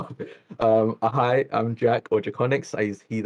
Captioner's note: laughs